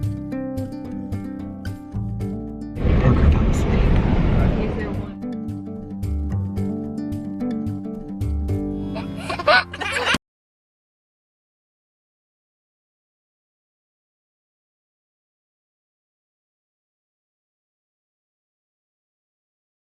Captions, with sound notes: - Parker fell asleep. (mellow music) (laughing)